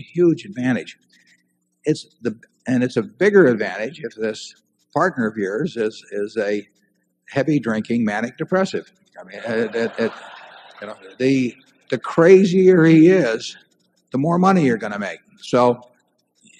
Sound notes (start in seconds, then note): 9.3 laughter